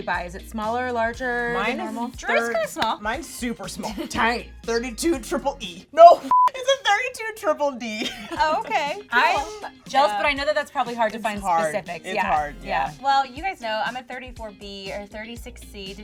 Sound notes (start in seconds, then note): 6.3 beeping; 7.8 laughs